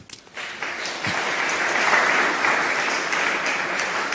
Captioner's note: clapping